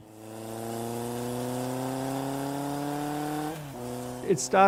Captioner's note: motorcycle revving